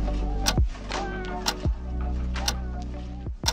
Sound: clock ticking

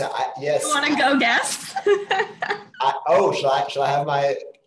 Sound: laughs

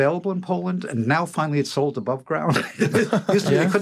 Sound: laughter

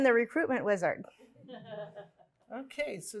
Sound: laughs

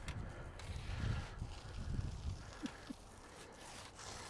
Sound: breathing heavily

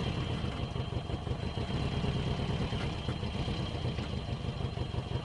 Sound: speaking in a foreign language; engine revving

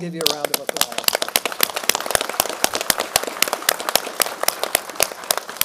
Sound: applause

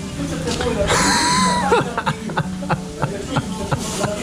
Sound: laughs

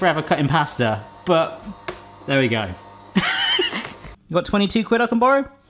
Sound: laughs

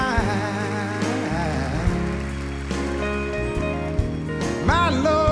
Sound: audience clapping

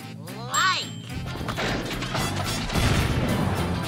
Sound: mechanical rumbling

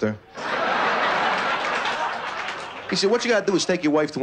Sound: laughter

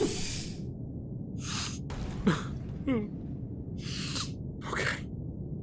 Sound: sniffs then starts sobbing

